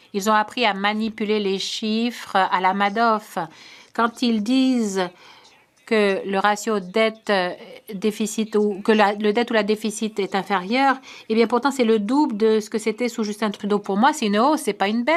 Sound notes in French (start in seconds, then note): 2.6 voix de l'interprète